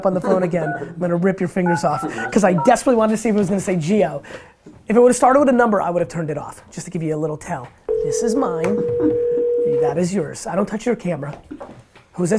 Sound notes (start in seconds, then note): 7.9 phone ringing; 9.6 chuckles